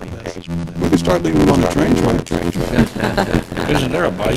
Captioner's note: laughter